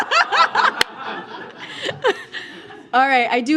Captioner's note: laughter